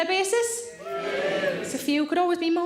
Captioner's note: audience cheers